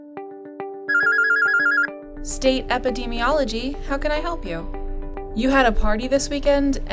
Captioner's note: telephone rings